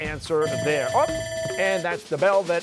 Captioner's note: bell ringing